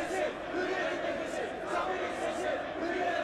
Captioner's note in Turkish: Hep bir ağızdan